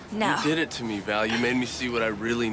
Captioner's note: chuckling; man groaning